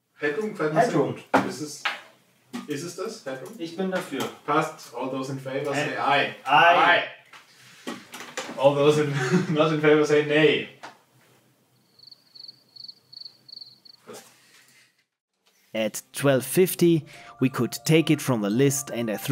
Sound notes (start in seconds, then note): 11.7 crickets